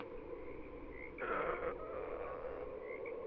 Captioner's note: teddy stretches and groans